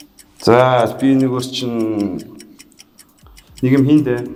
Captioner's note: none